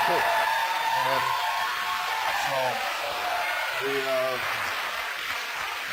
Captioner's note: applause